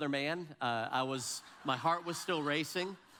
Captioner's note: audience laughs